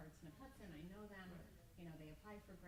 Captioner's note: stammers